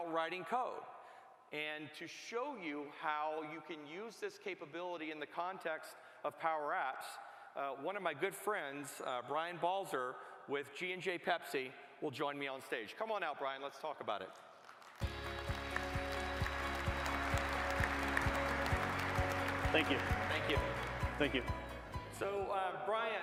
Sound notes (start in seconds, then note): 20.0 applause